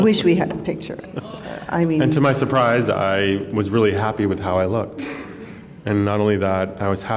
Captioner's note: laughs